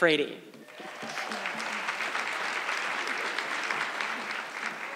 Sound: audience clapping

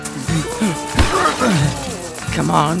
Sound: car starting

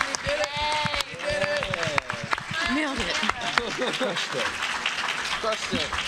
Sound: applause

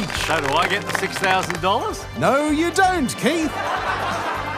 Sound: audience laughs

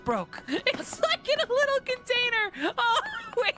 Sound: laughing

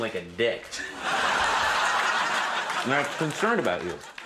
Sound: audience laughs

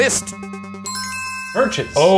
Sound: bell ringing

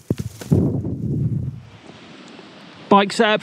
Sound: wind blowing

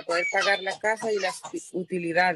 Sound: speaking in spanish

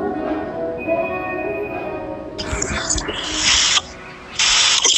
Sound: xylophone apple ringtone

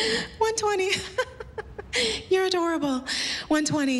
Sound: laughs

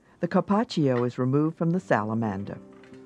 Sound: voiceover

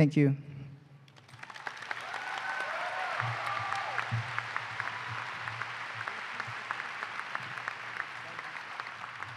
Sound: applause

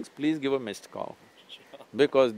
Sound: laughs

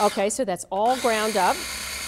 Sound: processor runs

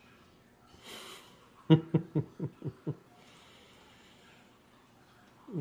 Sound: laughs

